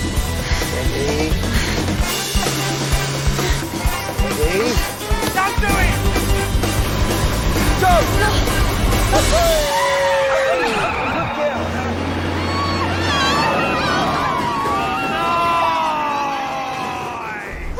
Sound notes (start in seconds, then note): 10.3 Alice laughing